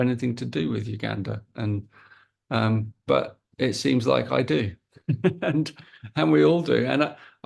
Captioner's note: chuckles